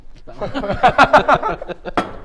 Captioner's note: laughs